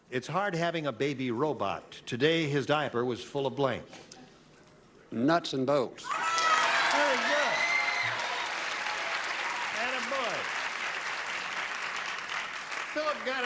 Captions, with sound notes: "IT'S HARD HAVING A BABY ROBOT. TODAY HIS DIAPER WAS FULL OF BLANK." NUTS AND BOLTS. [CHEERING] VERY GOOD. [CLAPPING] AND A BOY. [CLAPPING]